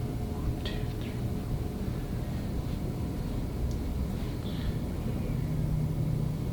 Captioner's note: whispers